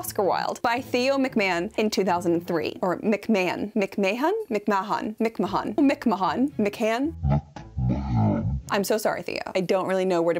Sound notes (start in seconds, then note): 8.5 mimics mumbling